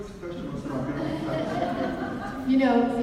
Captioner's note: audience laughs